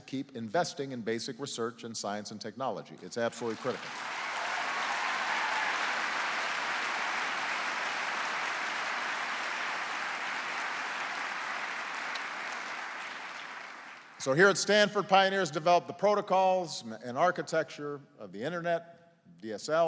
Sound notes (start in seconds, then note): 7.0 applause